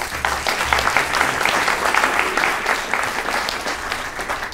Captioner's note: applause